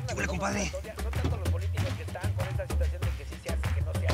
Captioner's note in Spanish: voz en el radio